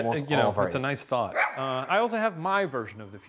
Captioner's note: dog barking